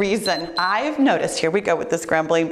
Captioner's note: timer beeps